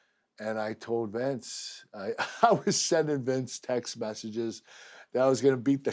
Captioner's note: laugh